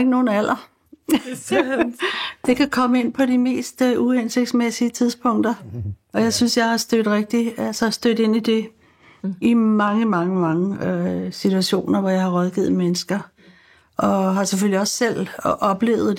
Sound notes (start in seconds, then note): 1.0 laughs